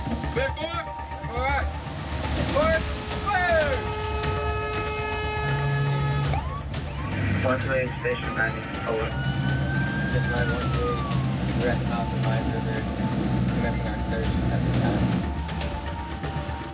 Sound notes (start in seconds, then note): 4.7 horn blaring; 9.5 police sirens blaring